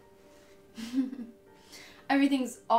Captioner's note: chuckles